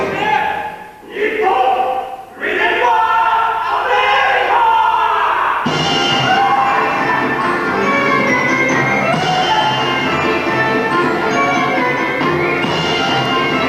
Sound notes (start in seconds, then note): 4.3 Americans laugh and party off-screen